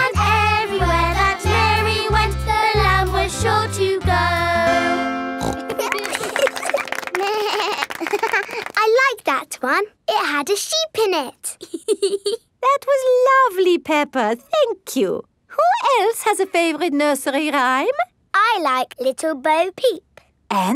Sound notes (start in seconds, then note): 5.4 snorts; 5.5 laughing; 7.2 bleats and laughs; 11.6 laughs